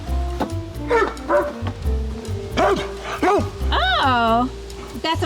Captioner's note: dog barks